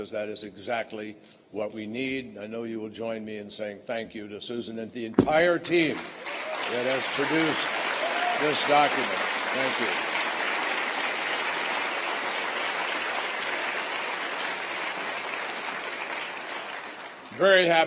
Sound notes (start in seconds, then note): 13.4 applause